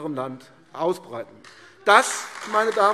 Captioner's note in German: Beifall AfD